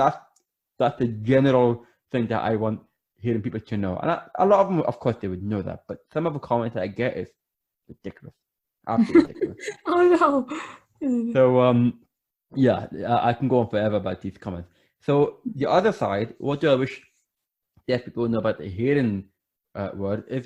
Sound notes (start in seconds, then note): 8.9 laughs